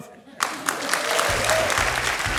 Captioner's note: applause